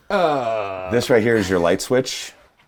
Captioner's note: groans